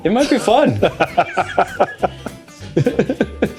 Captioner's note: laughter